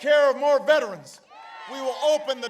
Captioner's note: applause